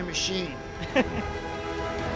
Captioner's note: chuckles